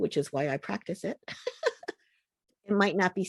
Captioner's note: laughter